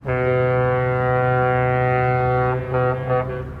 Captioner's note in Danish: tågehorn blæser